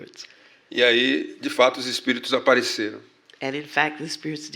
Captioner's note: speaking portuguese